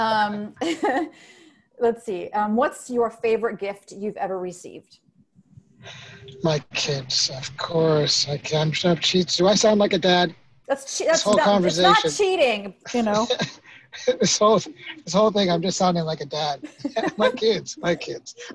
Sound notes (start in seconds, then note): 0.8 laughs; 12.9 laughing